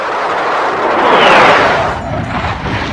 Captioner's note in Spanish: sonido de avion